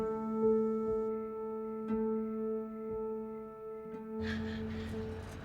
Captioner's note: crickets chirping